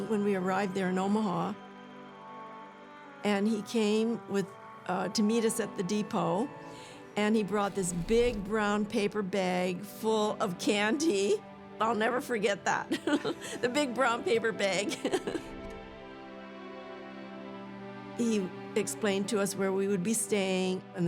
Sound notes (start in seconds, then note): 12.9 laughs; 14.9 laughs